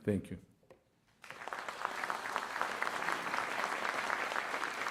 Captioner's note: applause